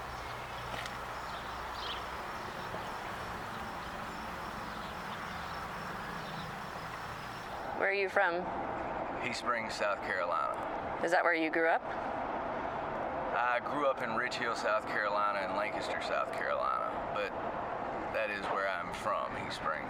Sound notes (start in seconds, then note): 7.8 birds chirping